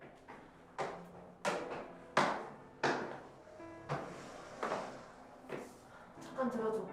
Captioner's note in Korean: 슬픈 피아노 음악; 큰 발걸음 소리